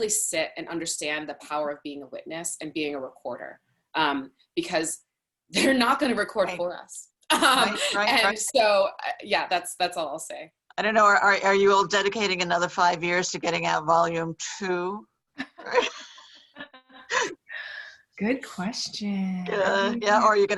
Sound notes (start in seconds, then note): 7.4 laughs; 15.4 laughs